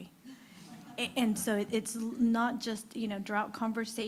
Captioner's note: laughter